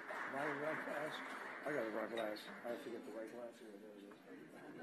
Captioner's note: applause